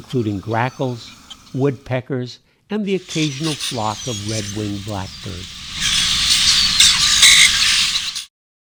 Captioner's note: raucous bird calls